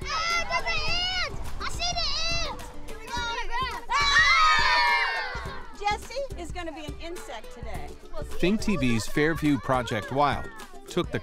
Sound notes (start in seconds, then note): 3.1 children playing